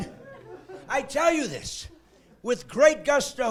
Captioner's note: laughing